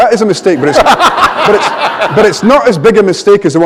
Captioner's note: laughter